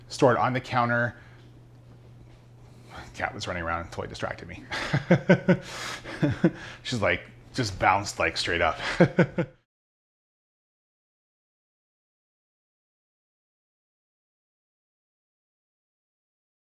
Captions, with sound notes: Store it on the counter, cat was running around and totally distracted me. (laughing) She's like, just bounced like straight up.